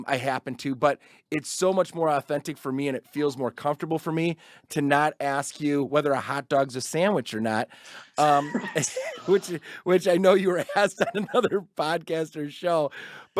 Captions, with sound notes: I happen to, but it's so much more on authentic for me. And it feels more comfortable for me to not ask you whether a hot dog's a sandwich or not, (chuckles) which I know you were asked on another Podcaster's show,